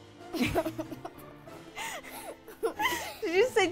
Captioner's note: both laugh